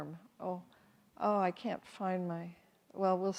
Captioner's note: none